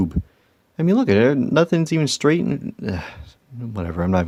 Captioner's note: sighs